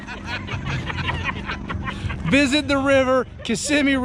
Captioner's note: cackling